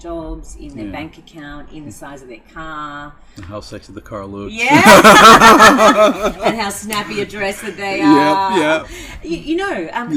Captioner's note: both laugh